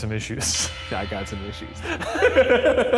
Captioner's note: laughing